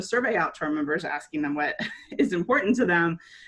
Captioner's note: chuckles